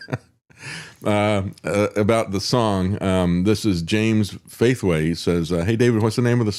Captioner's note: laughs